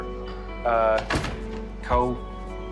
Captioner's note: door shuts